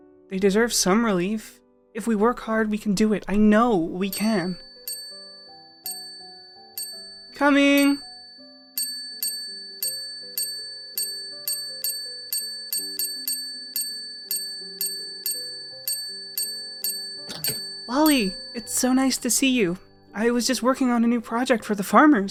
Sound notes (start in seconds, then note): 4.9 bell rings; 8.4 bell rings